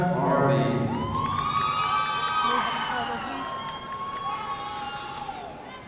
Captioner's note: audience cheering and shouting